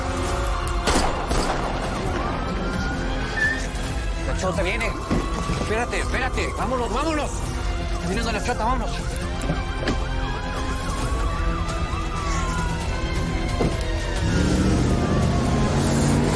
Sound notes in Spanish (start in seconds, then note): 0.8 Disparos; 2.0 Sirena de la policía